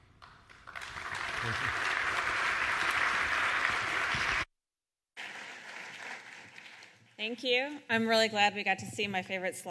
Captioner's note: applause